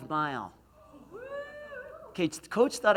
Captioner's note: cheers